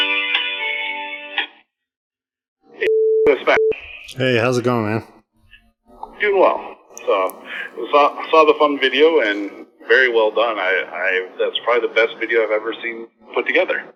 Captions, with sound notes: Hey hows it goin this is (beep) Hey, how's it going, man? So, I saw the fun video? And very well done. I that's probably the best video I've ever seen put together.